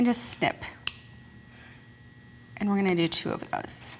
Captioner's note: metal snaps off